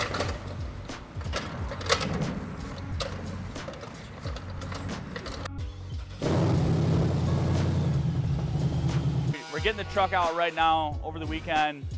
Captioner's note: upbeat music; engine revving